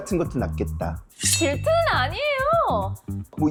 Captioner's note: slightly scratched sound effect